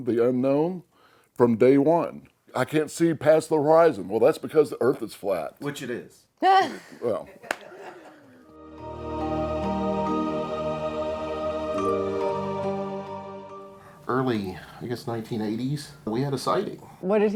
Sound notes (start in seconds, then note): 7.2 laughter; 8.5 mysterious music